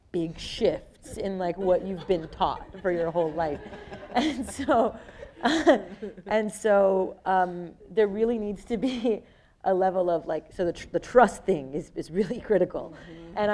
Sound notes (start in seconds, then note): 4.8 people laughing